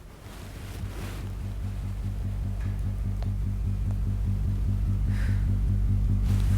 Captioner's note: electric whirring